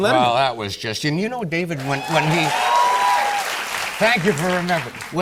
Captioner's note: cheers and applause